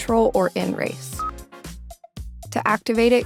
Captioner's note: screen beeps